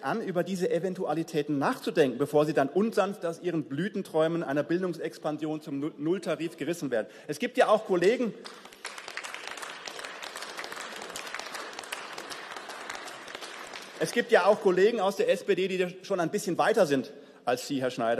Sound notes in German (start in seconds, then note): 8.0 Beifall